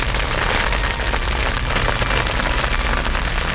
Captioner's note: flames